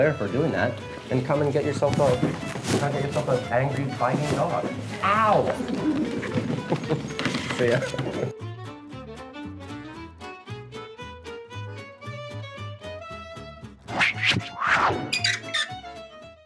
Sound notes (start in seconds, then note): 5.4 laughs; 9.2 soft music